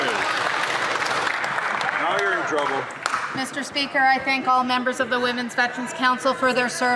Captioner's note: some Applause